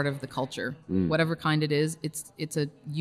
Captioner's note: host hums in agreement